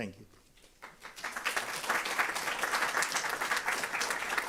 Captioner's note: applause